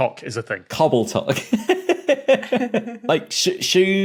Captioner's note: giggle